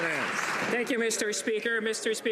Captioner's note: some Applause